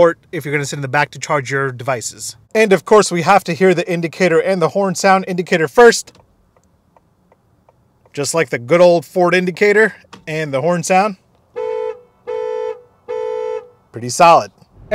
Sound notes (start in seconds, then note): 6.3 indicator clicks repeatedly; 11.4 car beeps repeatedly